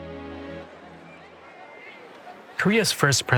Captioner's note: people talking in background